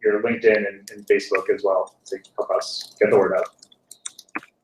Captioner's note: laugh